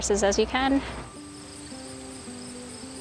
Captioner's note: birds chirping; upbeat music